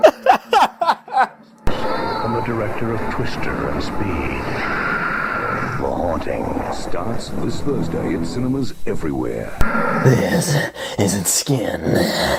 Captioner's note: laughing